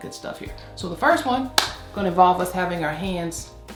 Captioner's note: hands clap